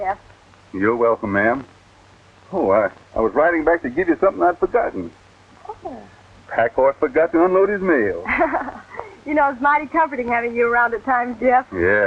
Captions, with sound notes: You're welcome, ma'am. Oh, I-- I was riding back to give you something I'd forgotten. Oh. Pack horse forgot to unload his mail. (laughs) You know, it's mighty comforting having you around at times, Jeff.